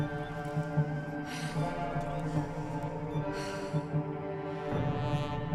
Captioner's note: Alora breathing heavily